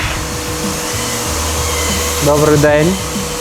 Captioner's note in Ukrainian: шум від ремонтних робіт